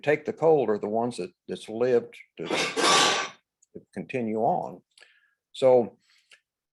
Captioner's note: metal clanking